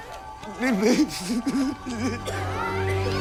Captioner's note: crying